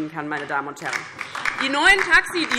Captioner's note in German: Beifall DIE LINKE